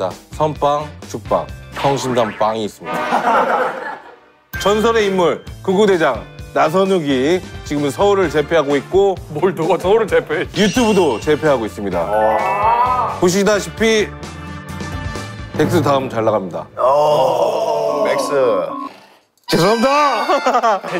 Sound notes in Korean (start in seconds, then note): 2.9 빵 터짐